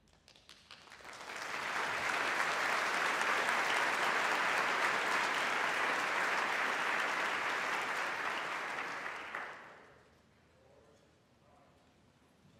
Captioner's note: applause